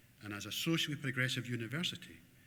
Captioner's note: none